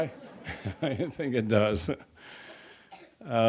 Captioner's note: laughs